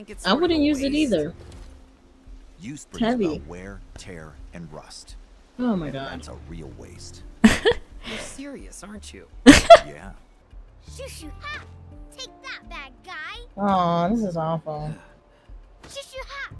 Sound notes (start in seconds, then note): 7.4 laughs; 9.4 laughs x2